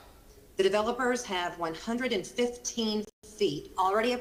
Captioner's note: ~distortion~